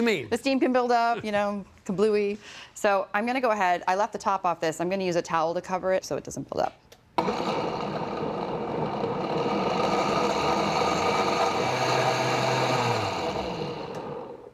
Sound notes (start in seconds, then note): 7.2 blender whirring, increasing in speed; 13.0 whirring stops